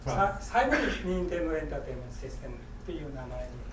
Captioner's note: speaking in foreign language; coughing